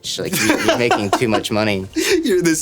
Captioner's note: laughing